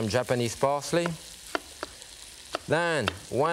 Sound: knife thudding

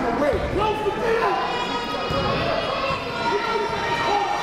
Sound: coach yelling

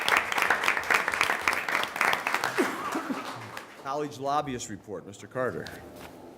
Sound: applause

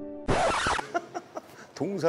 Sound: chuckling

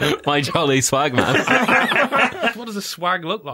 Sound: laughter

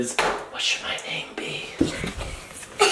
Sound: whispering

